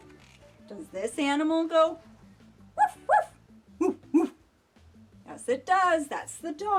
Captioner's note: barking